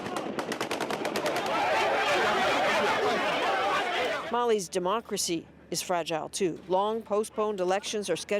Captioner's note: gunshots